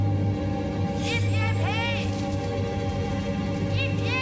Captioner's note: shouting